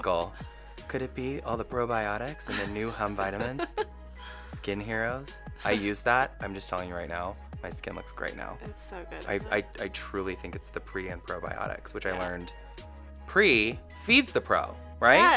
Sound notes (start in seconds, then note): 2.5 laughs